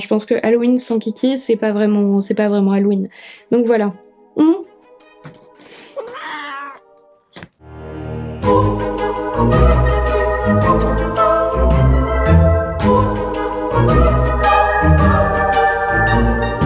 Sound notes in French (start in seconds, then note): 6.0 miaulement de Kiki; 7.6 musique de fond effrayante